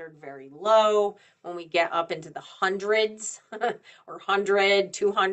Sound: chuckles

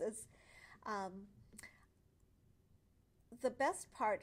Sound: pause

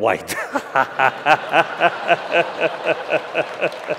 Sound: laughter

